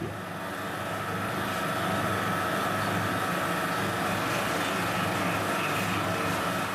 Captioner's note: motor noise